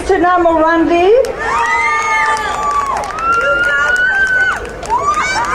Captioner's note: crowd cheering